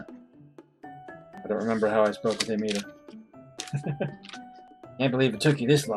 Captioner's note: chuckles